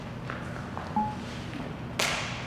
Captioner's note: graphic dings; hands clapping